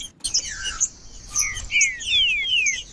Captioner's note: trinca ferro cantando